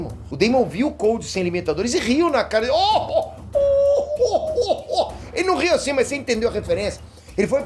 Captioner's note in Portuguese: Risada do Freeza